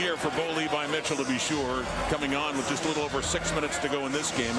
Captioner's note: crowd Noise